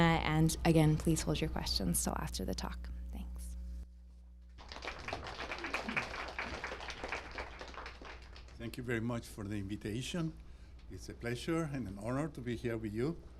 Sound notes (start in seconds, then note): 4.5 applause